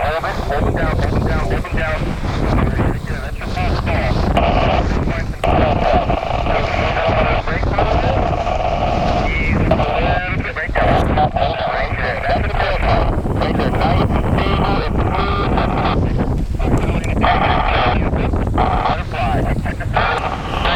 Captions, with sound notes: Hold it, hold it down, hold it down, hold it down. That's your full stall. So, ease up on those brakes a little bit. Ease up, just a little bit. Hold that, right there. Nice, stable and smooth. (interference drowns out radio)